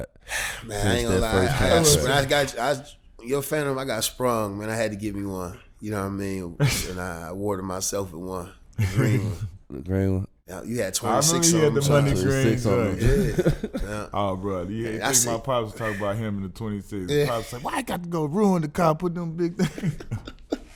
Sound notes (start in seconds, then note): 14.5 murmurs; 19.4 laughing